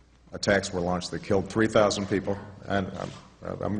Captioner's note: off mike